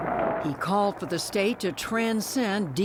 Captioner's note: voice-over